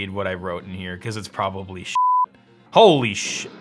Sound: beep

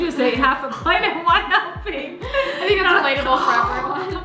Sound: laughs

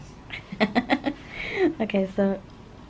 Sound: laughs

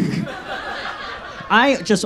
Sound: audience laughs

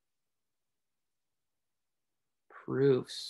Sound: silence

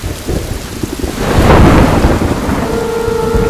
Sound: thunder rumbling

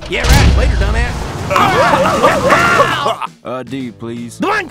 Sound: laughter

